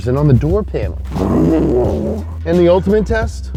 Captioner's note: scratching